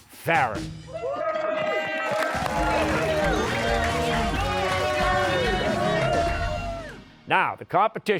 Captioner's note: cheers and applause